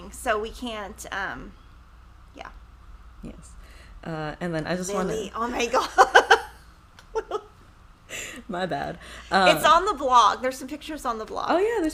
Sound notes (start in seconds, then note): 7.1 laughs